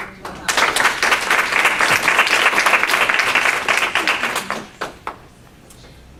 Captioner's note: audience applauding